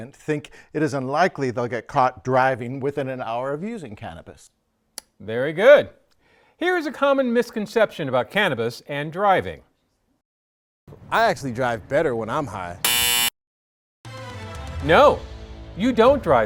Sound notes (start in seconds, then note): 12.8 error sound